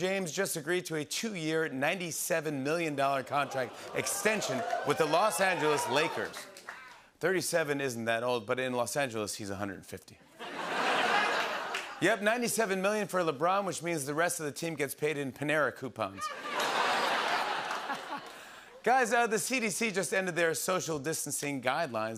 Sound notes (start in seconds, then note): 6.2 cheers; 10.4 laughter; 16.2 laughter